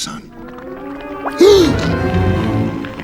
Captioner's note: gasps